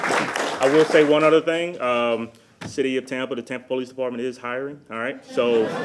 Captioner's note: applause